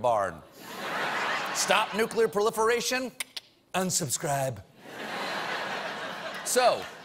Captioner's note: laughter; cheers and applause